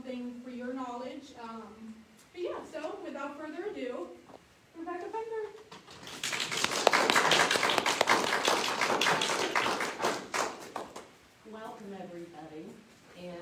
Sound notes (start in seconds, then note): 6.0 clapping